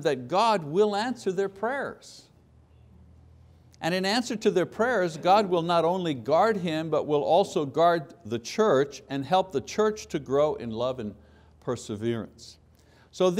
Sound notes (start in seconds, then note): none